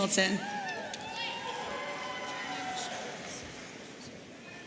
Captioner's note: audience cheering